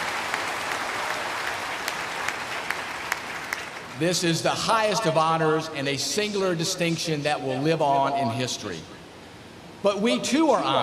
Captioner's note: applause